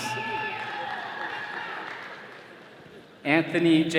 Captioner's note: attendees cheering